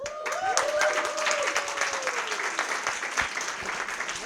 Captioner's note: applause